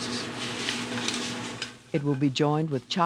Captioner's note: voiceover